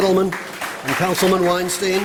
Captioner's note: applause